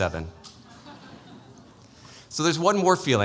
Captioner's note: laughter